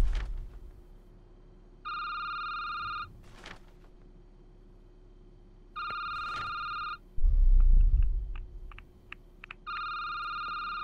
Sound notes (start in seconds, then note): 2.3 phone ringing